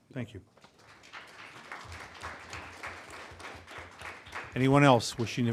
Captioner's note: applause